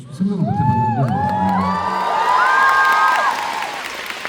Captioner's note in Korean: 환호